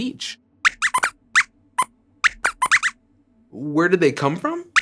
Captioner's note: squeaks squeaks